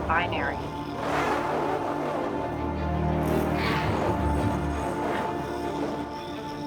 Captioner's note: robot speaking in foreign language